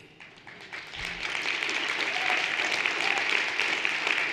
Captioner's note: everyone applauding